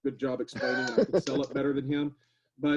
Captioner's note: laughs